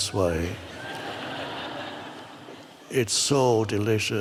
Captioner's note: audience laughs